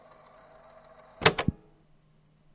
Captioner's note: click